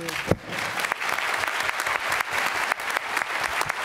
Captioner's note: applause